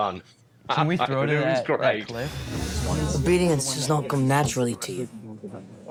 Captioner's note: broad accent